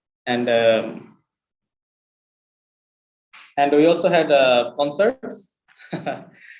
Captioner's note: laughs